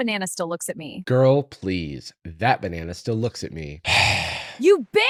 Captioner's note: sighs